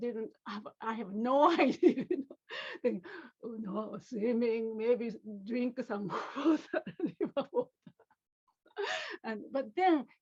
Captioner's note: laughter